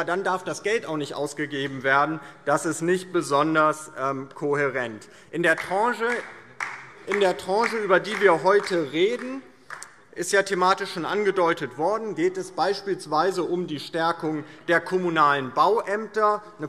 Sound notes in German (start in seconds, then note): 5.4 Beifall DIE LINKE